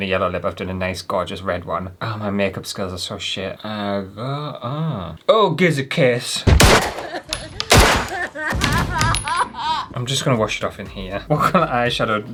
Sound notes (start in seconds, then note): 6.4 crying